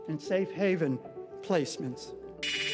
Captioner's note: text clicking; inspiring music